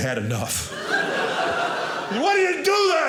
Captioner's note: audience laughing